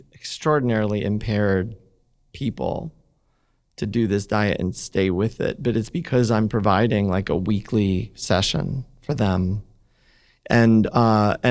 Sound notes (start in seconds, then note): none